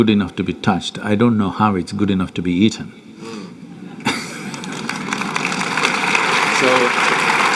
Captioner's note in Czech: aplaus